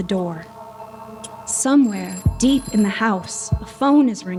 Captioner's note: phone ringing